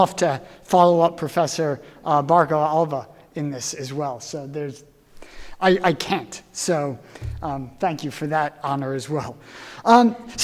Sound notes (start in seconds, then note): none